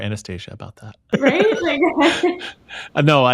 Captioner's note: laughs